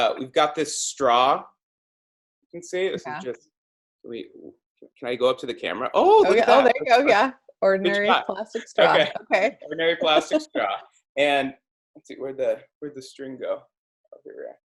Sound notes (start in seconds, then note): 8.6 laugh